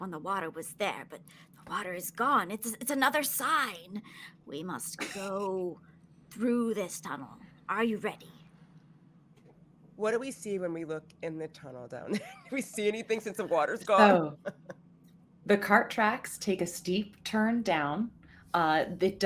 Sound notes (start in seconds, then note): 14.2 laughs